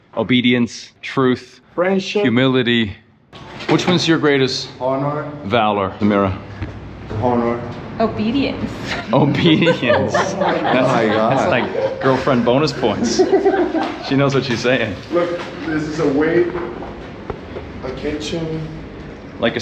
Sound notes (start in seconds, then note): 8.8 laughing